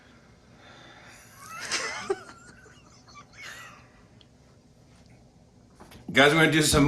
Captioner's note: Nancy and Jimmy laugh